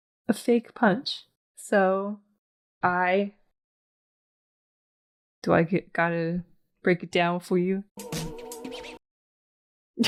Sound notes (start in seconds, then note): 8.2 sound akin to a funky record spin